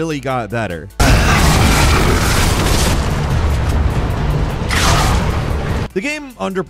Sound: monsters roaring; explosion blasts

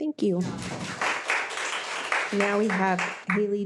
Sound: audience applauds

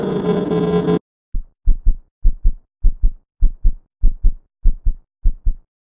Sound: creature screams; daniel's heartbeat can be heard

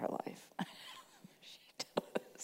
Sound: chuckling

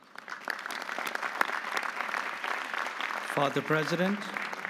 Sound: audience applauding

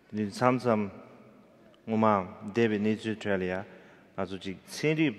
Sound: speaking in foreign language

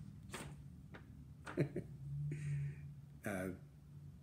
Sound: laughter

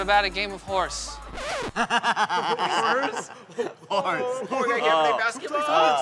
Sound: laughter

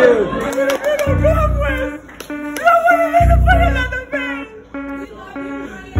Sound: inaudible cries

